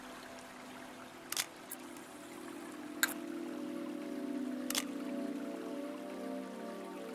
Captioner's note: shutter clicking; eerie music